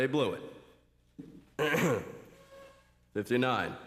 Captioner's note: clears throat